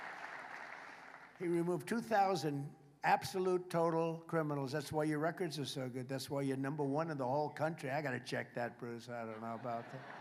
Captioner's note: applause